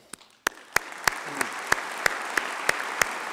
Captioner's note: applause